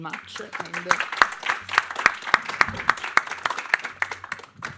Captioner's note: audience applauding